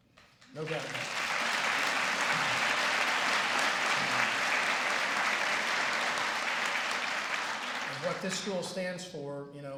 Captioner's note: applause